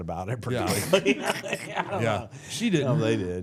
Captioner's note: all laughing